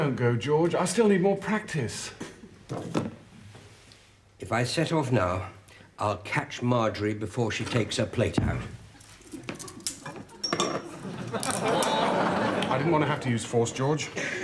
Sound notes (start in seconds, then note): 9.0 handcuff clicks; 10.8 audience laughs